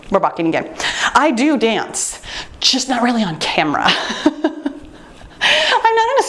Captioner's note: laughs